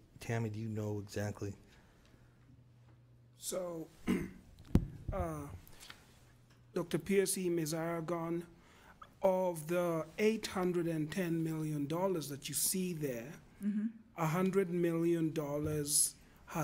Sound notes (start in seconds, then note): 4.0 clears throat